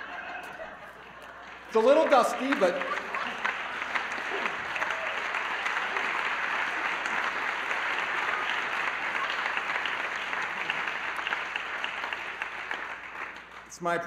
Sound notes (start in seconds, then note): 2.4 laughter